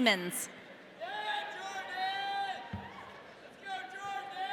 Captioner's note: audience cheering